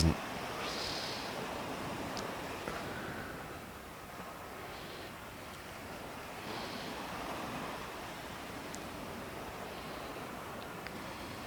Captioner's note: breathing